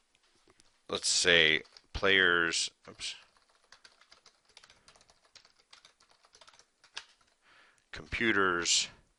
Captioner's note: typing